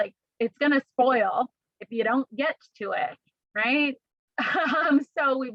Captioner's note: laughter